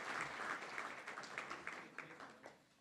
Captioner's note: applause